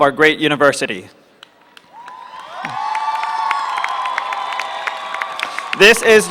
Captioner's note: applause